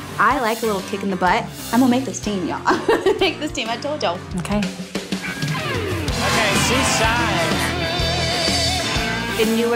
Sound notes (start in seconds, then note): 2.7 laughs; 7.6 energetic rock music